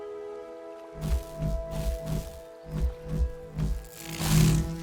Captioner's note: energy whirring